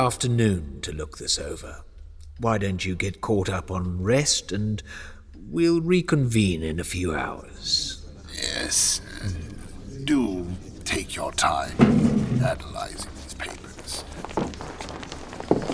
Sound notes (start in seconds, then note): 8.1 angry grumbles of other councilmen